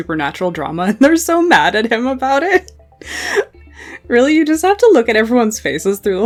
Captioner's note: laughing